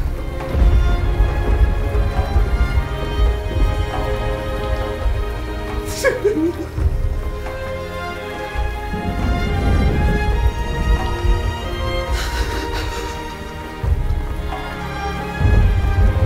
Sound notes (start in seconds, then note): 6.0 crying; 8.0 melancholic orchestral music